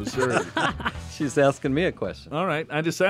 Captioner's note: laughs